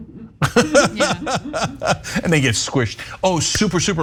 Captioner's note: laugh